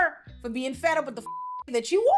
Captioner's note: beep